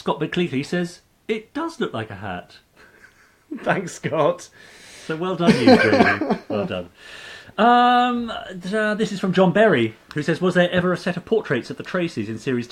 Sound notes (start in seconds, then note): 2.8 laughing